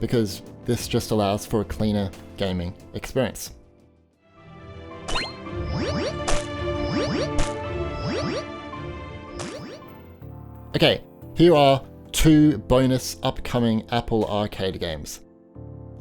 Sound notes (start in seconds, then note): 4.4 calm music; 5.5 electronic chiming